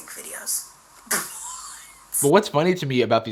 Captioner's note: laughs